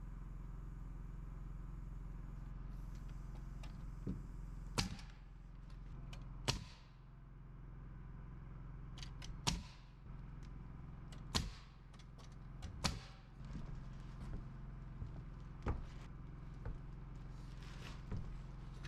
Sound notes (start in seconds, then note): 5.9 footsteps; 16.0 footsteps